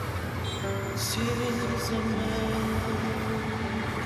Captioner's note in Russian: сирена скорой помощи